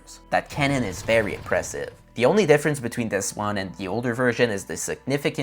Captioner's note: sound effect